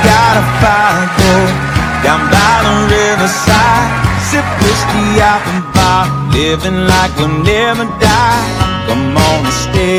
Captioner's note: much Cheering